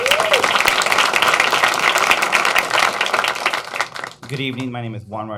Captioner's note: applause